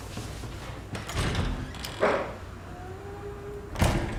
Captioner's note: door opens